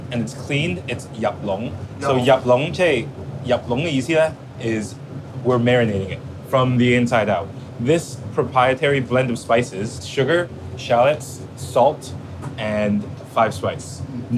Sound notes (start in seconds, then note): 1.6 speaking Cantonese